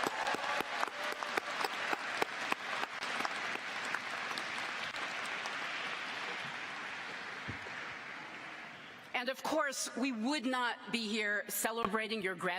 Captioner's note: cheers and applause